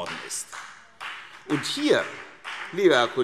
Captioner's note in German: Vereinzelter Beifall